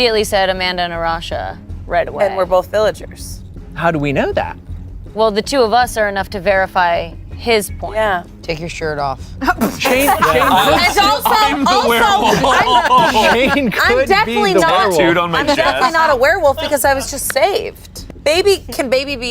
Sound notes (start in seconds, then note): 9.8 everyone laughs; 12.9 laughs